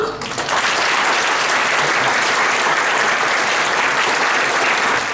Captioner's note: applause